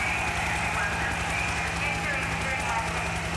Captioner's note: helicopter blades whirring